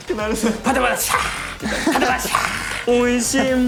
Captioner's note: swish swish!